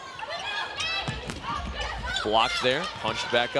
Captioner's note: players shouting